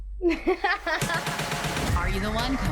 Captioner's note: laughs